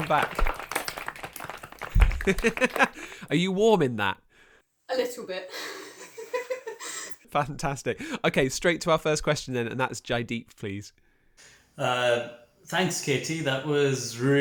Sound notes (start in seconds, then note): 5.6 laughter